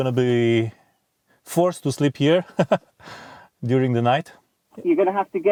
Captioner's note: laughs